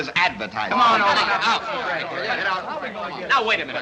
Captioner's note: confused protests